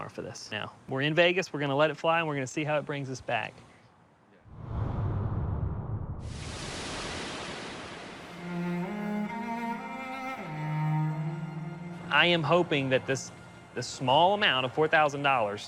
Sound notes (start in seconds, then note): none